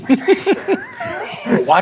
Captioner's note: chuckling